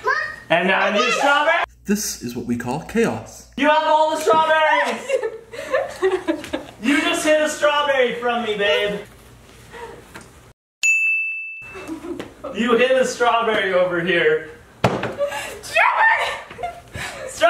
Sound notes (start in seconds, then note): 4.8 laughter; 11.7 laughs; 15.2 laughs